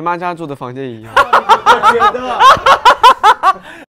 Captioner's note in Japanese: 爆笑